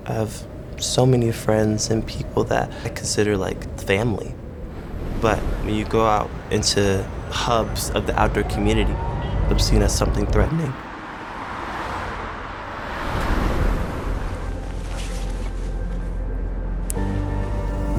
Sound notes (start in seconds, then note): 11.1 vehicles passing; 14.4 soft music